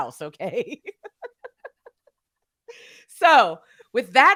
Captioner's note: laughing